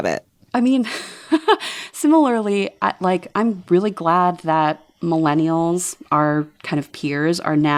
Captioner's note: laughter